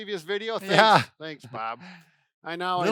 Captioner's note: chuckles